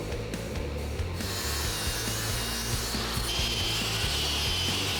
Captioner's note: blade sharpening